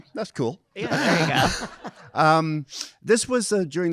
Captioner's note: audience laughing